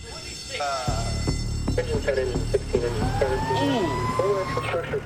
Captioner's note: fire bell rings